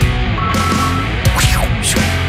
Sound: dingle dingle dingle; whoosh

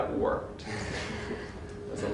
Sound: laughter

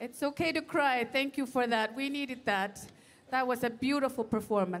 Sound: speaking Indigenous Language

